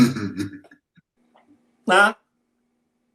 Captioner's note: chuckles